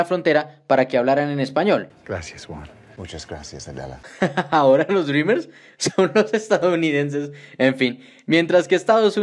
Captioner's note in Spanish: se ríe